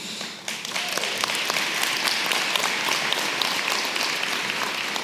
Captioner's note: audience clapping